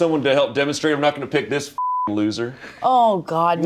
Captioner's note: beep